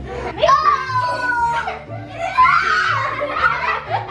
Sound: laughing

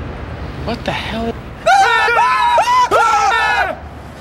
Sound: screaming

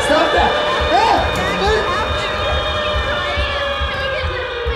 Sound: groaning; siren, distorted voices

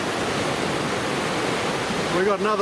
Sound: waves crashing

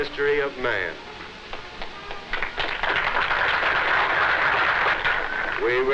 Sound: clapping

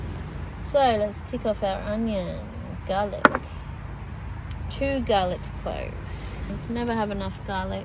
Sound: clunk

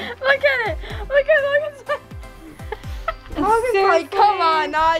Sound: mumbles and laughs

